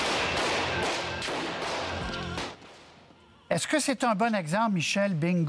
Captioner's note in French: tirs